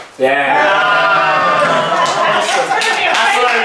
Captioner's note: cheering